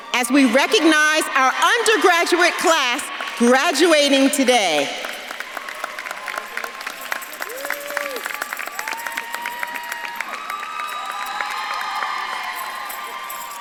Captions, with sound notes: as we recognize our undergraduate class graduating today. (audience claps and cheers) (bells jingling)